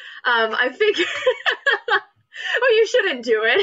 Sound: laughs

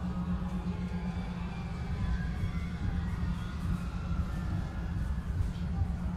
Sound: patrons screaming; people chattering

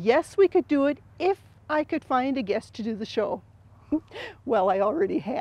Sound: giggles

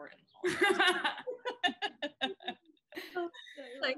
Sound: laughing

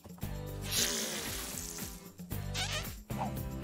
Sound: blows raspberry

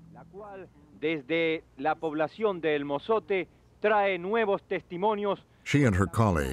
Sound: speaking Spanish

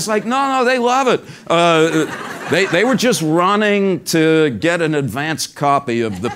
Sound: laugh

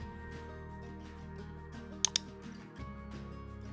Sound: mouse clicking

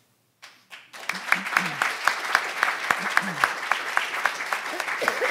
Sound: audience applauding

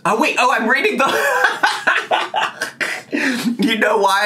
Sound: laughing

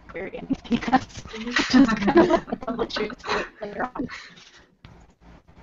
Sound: laugter

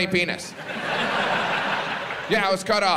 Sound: audience laughs

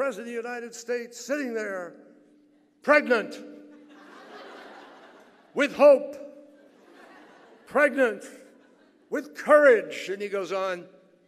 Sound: laughter

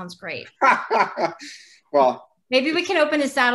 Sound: laughing

